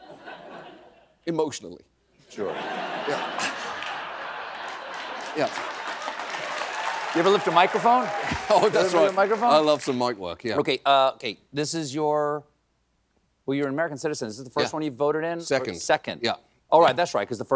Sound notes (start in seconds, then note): 4.4 applause; 5.7 laughter